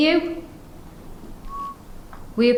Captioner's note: whistling sound